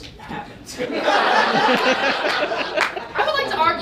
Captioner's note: audience laughs